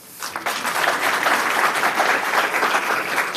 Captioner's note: applauding